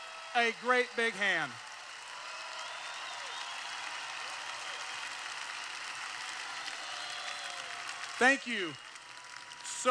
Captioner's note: cheers